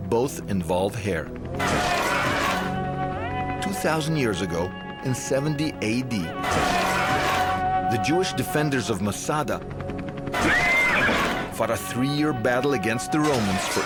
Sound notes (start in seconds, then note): 1.6 metal crashing; 1.8 yelling; 6.2 metal crashing; 6.2 yelling; 10.3 horse neighing; 10.4 metal crashing